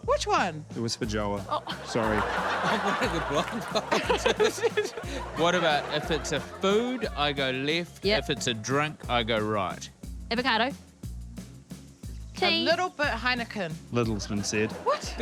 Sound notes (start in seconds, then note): 1.4 audience laughs; 3.4 laughter, muttering